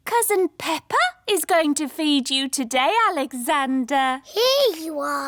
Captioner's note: none